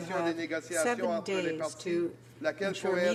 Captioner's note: speaking French